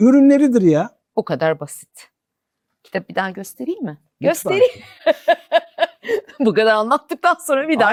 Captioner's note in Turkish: kahkaha